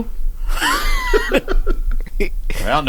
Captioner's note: laughter